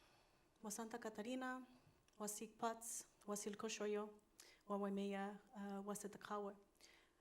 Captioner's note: continues speaking in foreign language